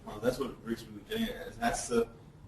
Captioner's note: distorted speech